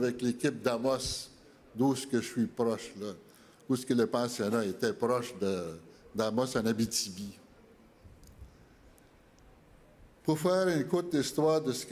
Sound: speaking French

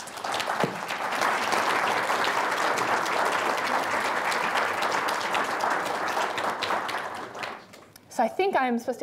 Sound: audience applause

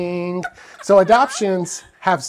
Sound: laughing

